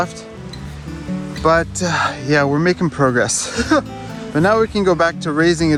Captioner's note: chuckles